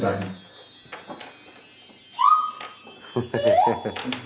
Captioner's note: ringing